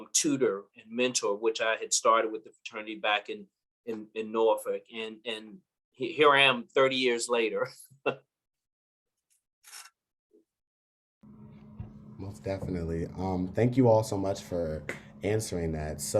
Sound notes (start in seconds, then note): 9.5 laugh